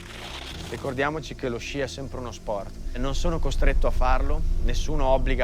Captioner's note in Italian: parla in italiano